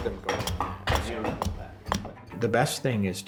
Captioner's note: axe thumps